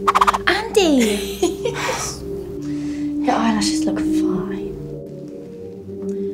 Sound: laughs

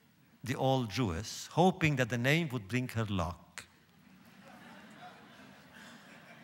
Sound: laughter

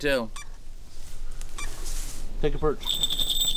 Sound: device beeping; bell rings

